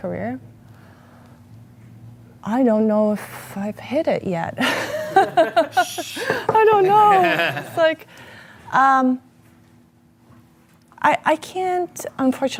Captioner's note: laughter